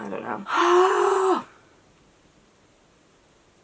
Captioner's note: sigh